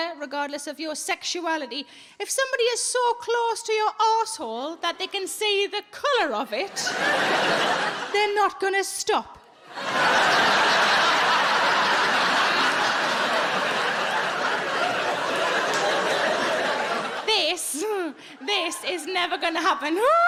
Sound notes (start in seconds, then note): 10.4 audience laughing